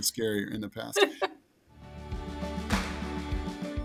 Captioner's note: laughing; upbeat music